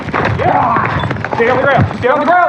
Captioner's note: growlwlining sosoununds